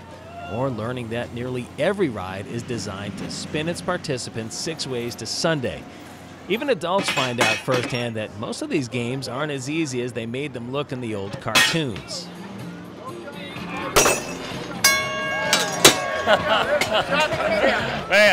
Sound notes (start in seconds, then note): 14.0 bell ringing; 16.1 laughter